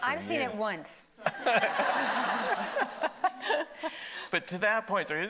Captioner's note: everybody laughing